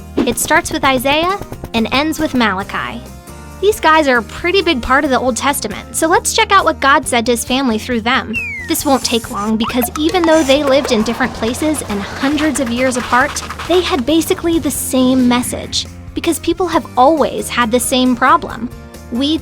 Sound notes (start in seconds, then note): 13.2 footsteps